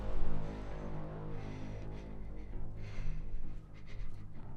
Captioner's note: Lucy panting